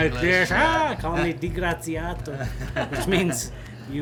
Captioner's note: speaks Italian